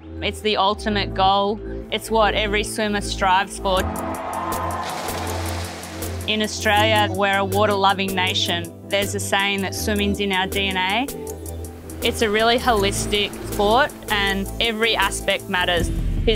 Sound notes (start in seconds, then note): 3.6 water splashing; 3.7 people cheering